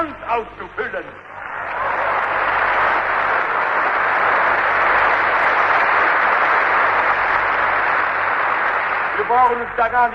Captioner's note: applause